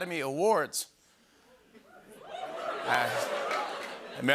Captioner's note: cheers and applause, laughter